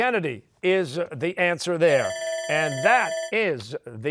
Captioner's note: bell ringing